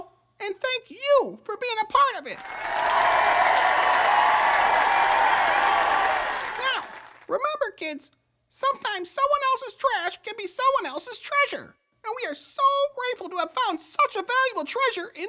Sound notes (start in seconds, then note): 2.3 cheer/applause